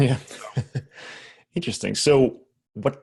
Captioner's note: laughs